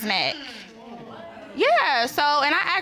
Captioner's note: audience exclaiming